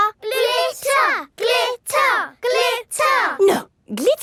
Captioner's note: chanting